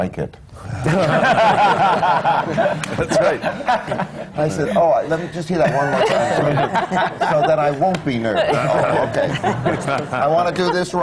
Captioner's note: laughter; laughter